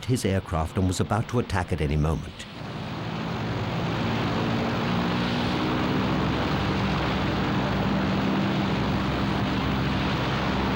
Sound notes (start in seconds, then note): 2.5 plane engine roars